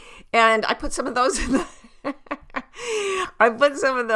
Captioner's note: laughs